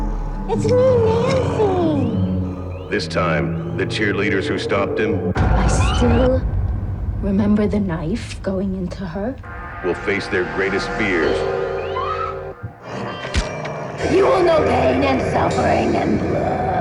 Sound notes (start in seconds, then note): 11.9 Nancy screams